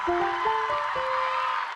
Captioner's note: applause